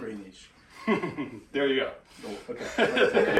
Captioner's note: laughter